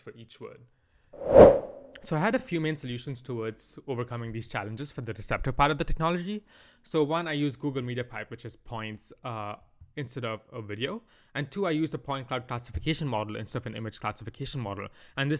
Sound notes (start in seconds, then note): 1.1 transition whoosh